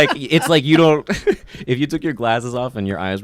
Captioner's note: laughs